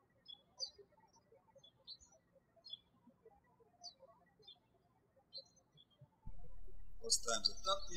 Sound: birds chirping

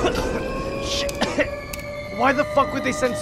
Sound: coughing; cough

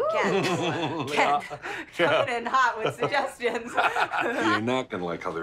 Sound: laughs

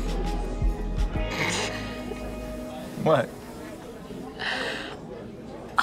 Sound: Astrid laughs

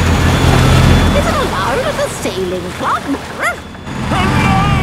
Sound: barks

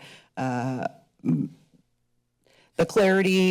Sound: pause

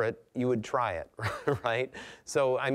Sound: chuckling

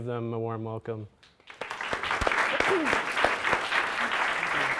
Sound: applause

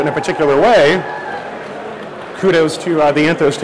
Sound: background cheering and applause

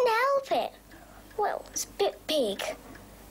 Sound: none

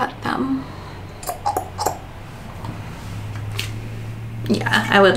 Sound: pops tongue

